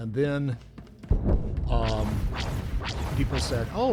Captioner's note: gunshots